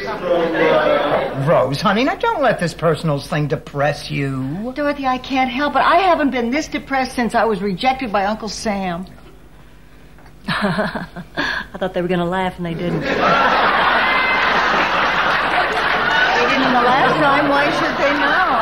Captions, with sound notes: Rose, honey, now don't let this personals thing depress you. Dorothy, I can't help it. I haven't been misdepressed since I was rejected by Uncle Sam. (laughs) I thought they were gonna laugh and they didn't. (audience laughing) They didn't laugh, so why should they not?